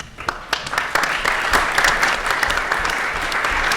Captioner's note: applause